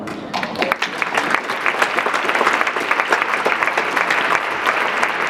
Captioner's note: audience clapping